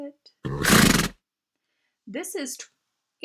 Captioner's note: horse Snorting